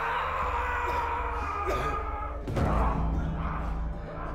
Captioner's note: yelling